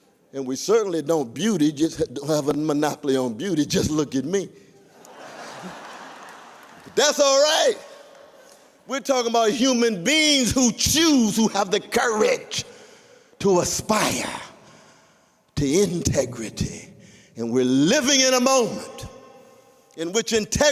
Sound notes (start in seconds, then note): 4.8 laughter